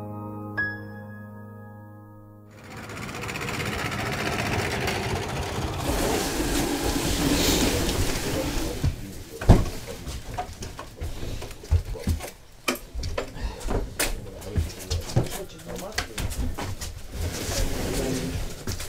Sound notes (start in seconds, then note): 2.5 running motorcycle; 7.0 construction noise